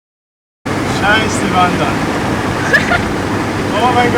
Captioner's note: swearing